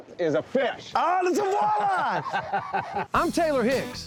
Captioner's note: laughing